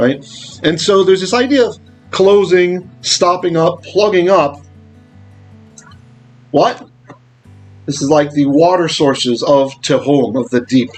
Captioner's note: Hebrew; Hebrew